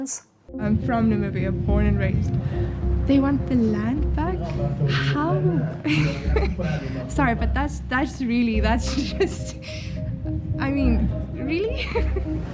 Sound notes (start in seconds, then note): 4.6 laughs; 10.3 laughs